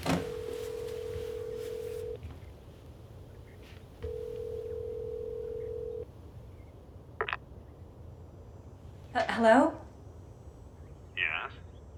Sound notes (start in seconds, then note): 0.1 line trilling; 7.7 line clicks